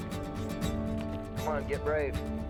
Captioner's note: bird squaks